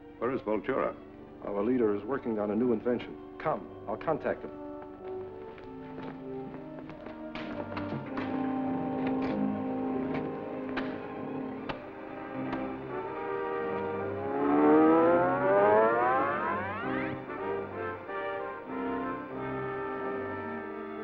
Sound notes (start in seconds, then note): 6.2 dramatic music; 14.9 device whirring; 18.1 dramatic music